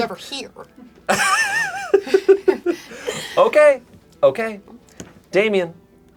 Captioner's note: laughing